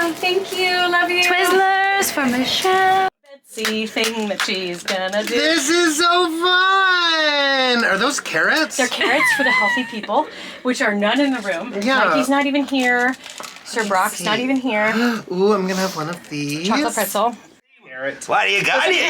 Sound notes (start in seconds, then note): 3.6 clapping; 3.6 hands clapping; 7.4 laughing; 14.9 gasping